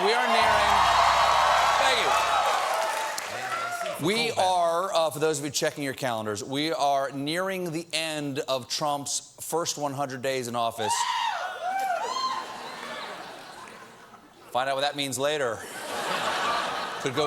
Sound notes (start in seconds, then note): 0.0 cheers and applause; 14.5 cheering